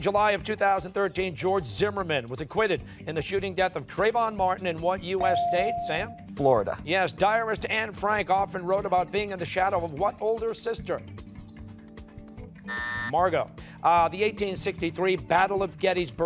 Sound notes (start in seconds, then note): 12.7 buzzer sounding